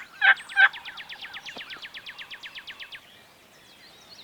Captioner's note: birds tweeting